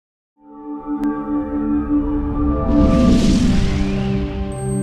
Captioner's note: logo whooshing